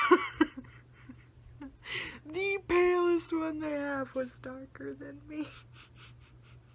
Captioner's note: laughs